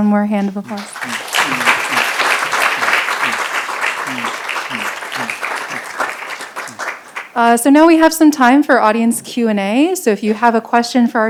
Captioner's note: applause